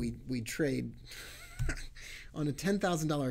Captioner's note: chuckling